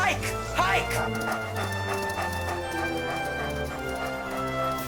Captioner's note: dogs panting